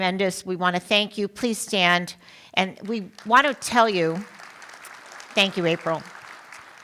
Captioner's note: applause